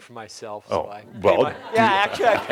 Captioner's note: laughter